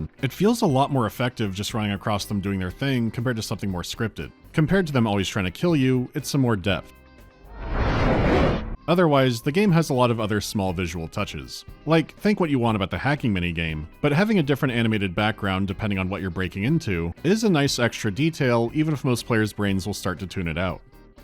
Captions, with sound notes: it feels a lot more effective just running across them doing their thing, compared to something more scripted. Compared to them always trying to kill you, it’s some more depth. [menacing woosh] Otherwise, the game has a lot of other small visual touches. Like, think what you want about the hacking mini-game, but having a different animated background, depending on what you’re breaking into, is a nice extra detail, even if most players’ brains will start to tune it out.